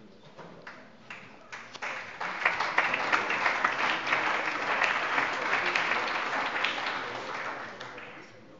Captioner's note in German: Allgemeiner Beifall